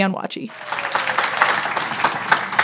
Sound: applause

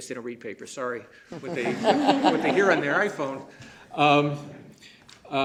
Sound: laughter

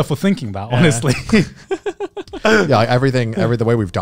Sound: laughs

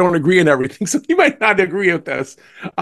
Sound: laugh

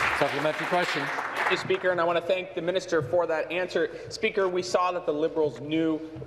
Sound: applause

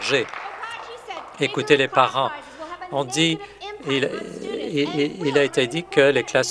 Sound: applause

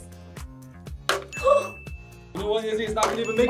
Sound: gasps

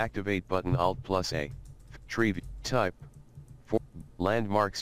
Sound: NVDA skips quickly through links

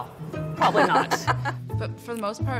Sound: laughs

